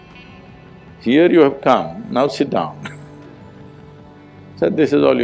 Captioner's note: laughs